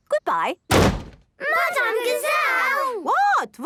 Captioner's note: bangs